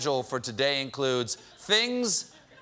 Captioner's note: laughter